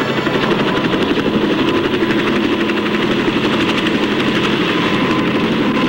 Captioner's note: helicopter flying over tornado damage